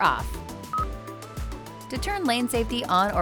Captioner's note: button beeps